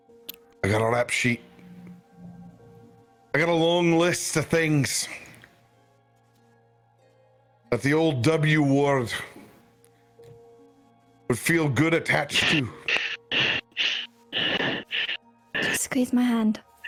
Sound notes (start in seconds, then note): 12.4 Krel hyperventilating